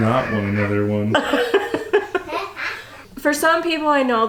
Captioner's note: laughing